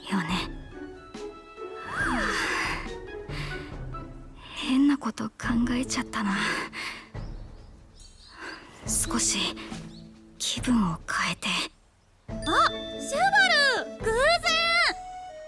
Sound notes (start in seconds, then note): 1.9 sigh